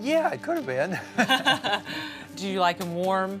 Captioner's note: laughing